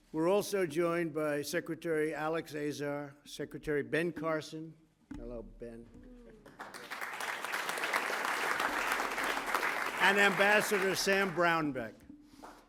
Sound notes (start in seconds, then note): 6.4 applause